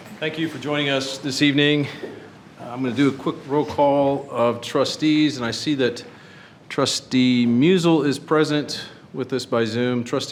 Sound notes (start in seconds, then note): none